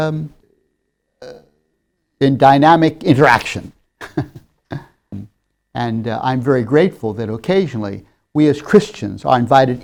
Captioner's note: laughs